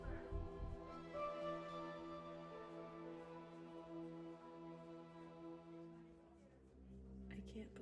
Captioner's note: hallway Chatter